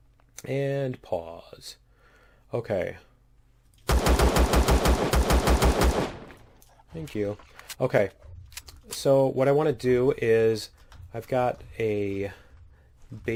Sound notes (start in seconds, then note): 3.9 pistol firing